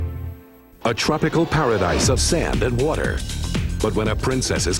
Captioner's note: voiceover